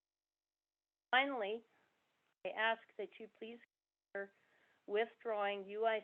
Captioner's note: audio cuts off